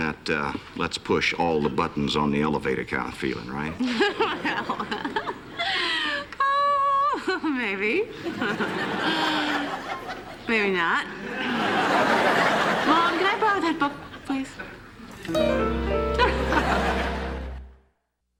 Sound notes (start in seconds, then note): 3.8 laughs; 11.2 laughter; 16.1 laughter